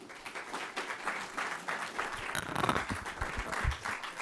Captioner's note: audience clapping